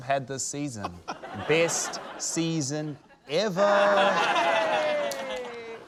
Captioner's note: laughter, cheering